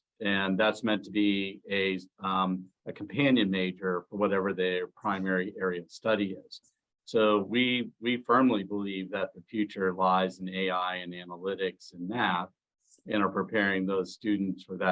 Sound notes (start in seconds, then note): none